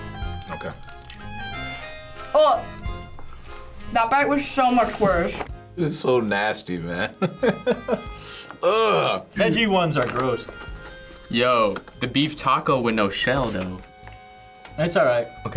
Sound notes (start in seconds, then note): 7.1 laughs